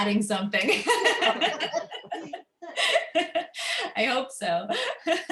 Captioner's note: laughter